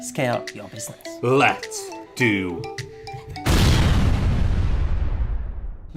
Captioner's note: explosion